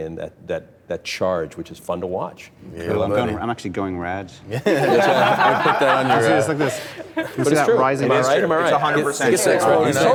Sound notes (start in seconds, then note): 4.5 laughter